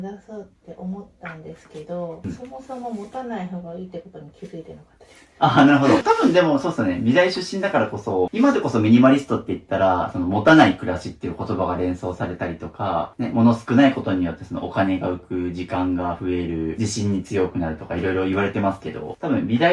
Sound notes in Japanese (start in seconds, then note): 5.5 笑い